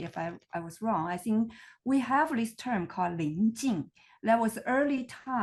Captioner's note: speaks foreign language